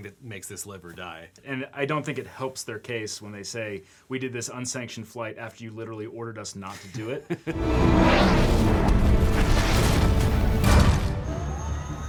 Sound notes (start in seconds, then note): 7.5 fighter jet revving; 10.6 dramatic music